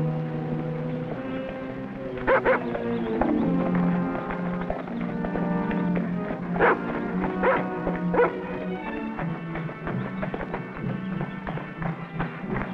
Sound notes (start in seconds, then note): 0.8 horses galloping; 2.2 Rebel barking; 9.8 drums beating